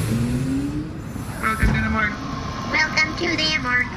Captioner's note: doors sliding open as ZapZop enters the morgue